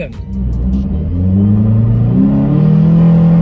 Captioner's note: engine sound